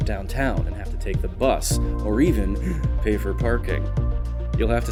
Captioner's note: gasp